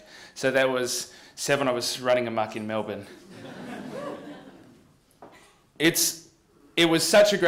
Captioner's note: laughter